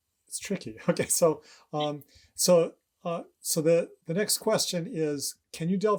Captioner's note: chuckles